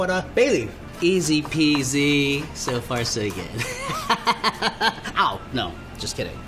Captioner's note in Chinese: 笑聲